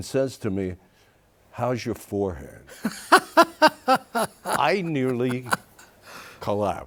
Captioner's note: laughing